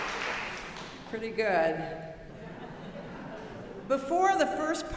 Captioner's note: audience laughing